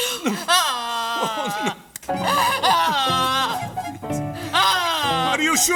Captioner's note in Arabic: تبكي; تشديد ، متوترة